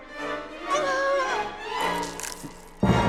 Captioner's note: necklace breaking; shocking orchestral hit